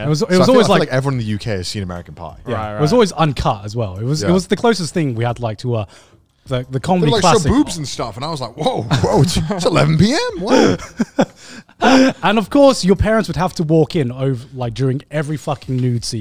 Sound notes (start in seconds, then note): 10.4 everyone laughs